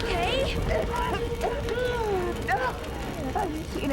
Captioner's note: coughing violently